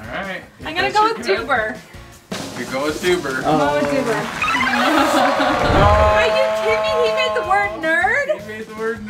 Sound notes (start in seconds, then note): 3.3 applause; 3.7 drum roll; 5.5 descending tones